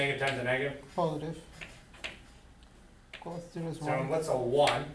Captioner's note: voiceover